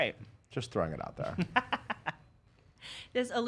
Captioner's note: laughing